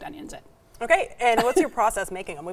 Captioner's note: chuckles